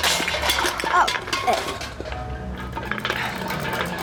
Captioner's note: clattering